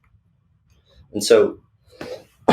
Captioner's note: coughs